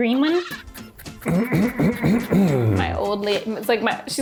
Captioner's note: clears throat